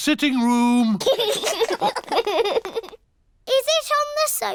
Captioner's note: laughter